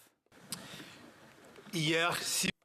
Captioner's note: speaking French